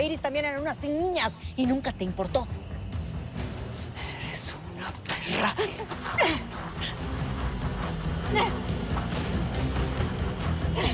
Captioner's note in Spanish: Exclamaciones del forcejeo